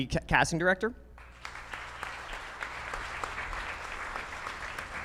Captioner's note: audience clapping